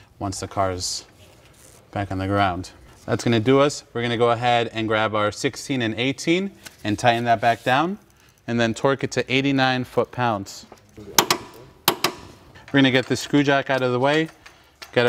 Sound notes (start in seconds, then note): 11.0 metal clanking